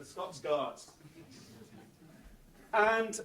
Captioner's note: audience laughs